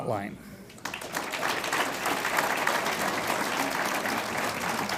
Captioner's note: audience applauds